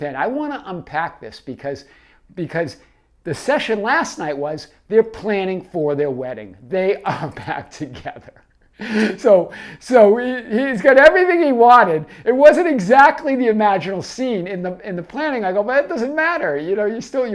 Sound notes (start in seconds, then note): 8.8 laughs